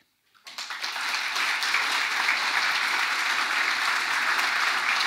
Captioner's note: audience applauding